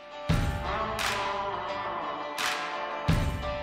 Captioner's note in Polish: Aplauz